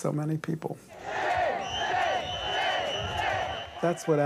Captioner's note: crowd chants